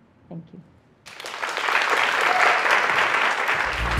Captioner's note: applause